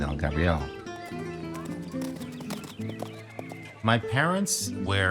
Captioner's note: hooves thudding